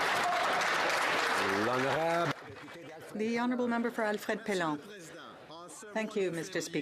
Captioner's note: some Applause